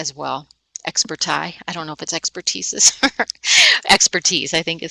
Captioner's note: laughing